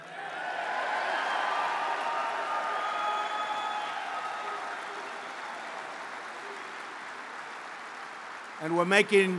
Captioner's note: applause